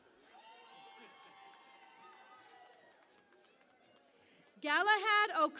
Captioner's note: cheering and Applause